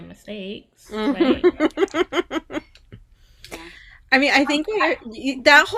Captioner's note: giggling